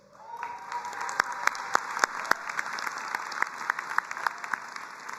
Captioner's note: audience applauding and cheering